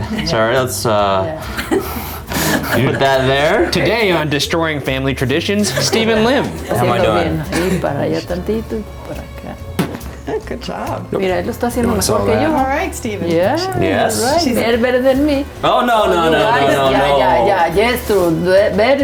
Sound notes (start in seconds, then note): 8.3 speaks in Spanish; 11.7 speaks in Spanish